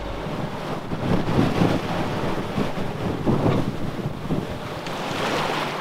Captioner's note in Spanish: sopla fuerte viento